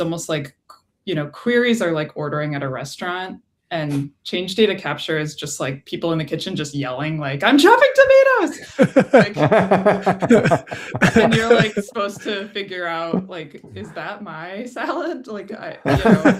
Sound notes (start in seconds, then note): 8.6 laughter; 15.8 laughter